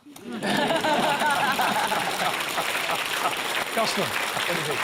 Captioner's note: laughter and applause